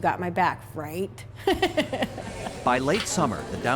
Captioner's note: laughter